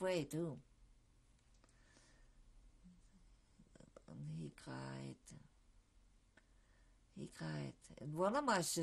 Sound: pauses for 3 seconds

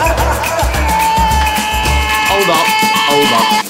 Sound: man laughing; Delroy screaming

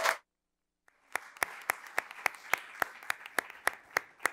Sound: audience applauds

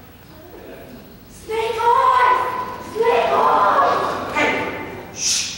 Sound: whispering

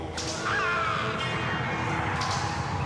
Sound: man screaming; tires squealing

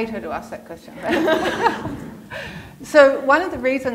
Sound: laughter

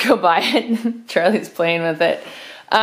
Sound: soft Laughter

